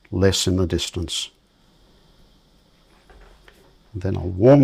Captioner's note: silence